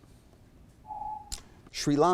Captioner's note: timer beeps